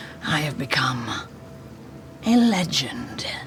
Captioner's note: none